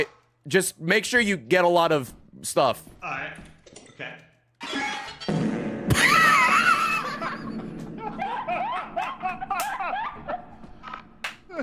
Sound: laughs; fart noise

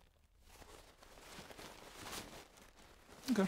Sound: self-conscious shuffling

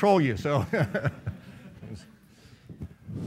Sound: laughing

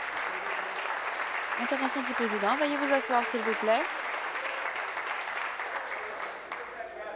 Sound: applause

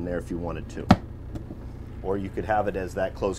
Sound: cupboard closing

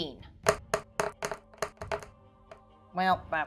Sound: dice thudding

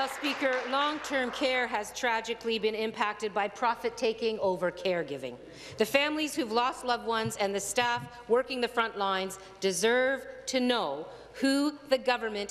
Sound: applause

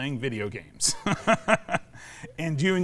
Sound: laughs

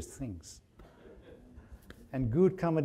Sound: audience laughing

